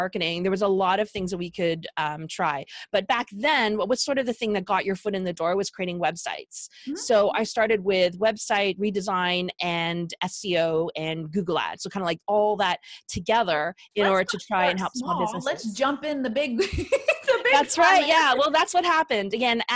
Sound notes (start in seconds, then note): 16.6 laughing